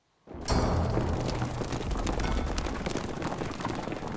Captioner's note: thunderous galloping